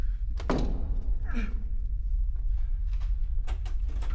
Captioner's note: grunting